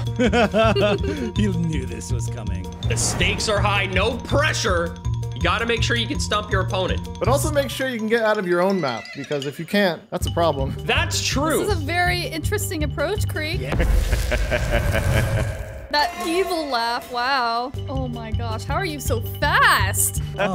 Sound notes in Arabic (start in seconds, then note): 0.0 تضحك; 14.0 تضحك